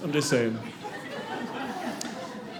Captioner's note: audience laughing